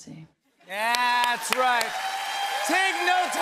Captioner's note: cheers and applause